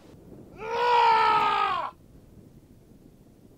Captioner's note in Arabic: صراخ